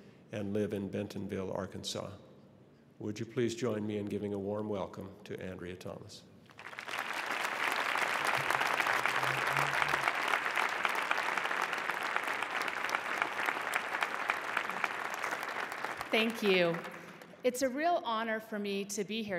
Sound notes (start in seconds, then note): 6.5 applause